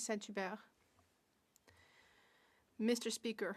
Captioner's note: speaking French